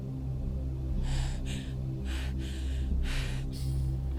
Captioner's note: Gina panting